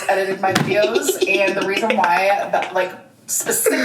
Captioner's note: laughs hysterically